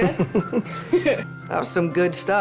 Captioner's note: laughter